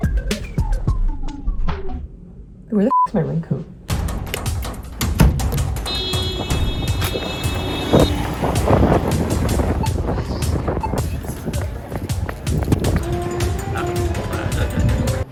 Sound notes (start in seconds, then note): 3.9 hectic percussive music; 5.6 car horn; 9.0 wind; 11.0 wind and foosteps